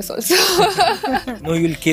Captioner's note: laughter